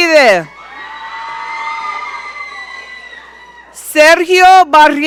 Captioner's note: audience cheering